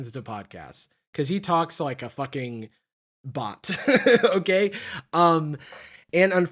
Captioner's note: laughs